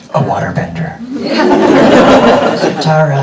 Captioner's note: everybody laughing